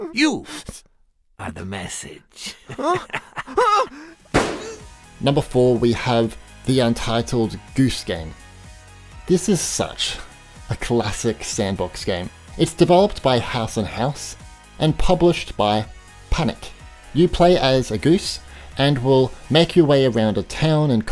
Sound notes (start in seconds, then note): 2.4 laughs; 3.4 yelling; 4.3 gun bangs